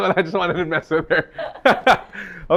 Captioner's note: laughs